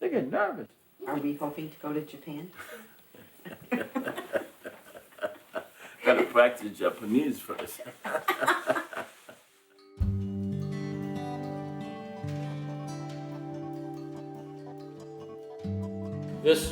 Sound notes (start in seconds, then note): 3.2 laughing; 7.8 both laughing